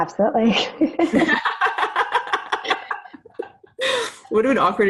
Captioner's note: ladies laughing